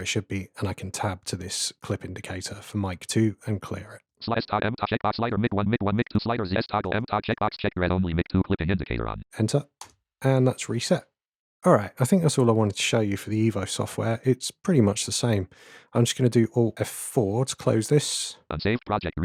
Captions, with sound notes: where it should be, and I can tab to this clip indicator for Mic 2 and clear it. [Automated voice] ..inaudible… Mic 1, Mic 1, inaudible…Mic 2 clipping indicator on Enter, and that’s reset! Alright, I think that’s all I wanted to show you for the EVO software. It’s pretty much the same. I’m just going to do Alt F4 to close this [Automated voice] Save project